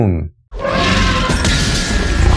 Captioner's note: roaring and screaming and glass shattering